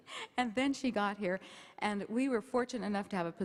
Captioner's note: none